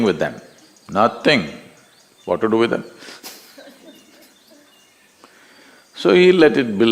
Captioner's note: laughs